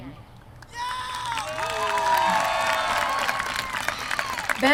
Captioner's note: cheers from crowd